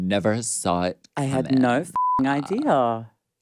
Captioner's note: beep